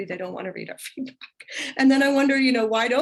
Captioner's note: laughter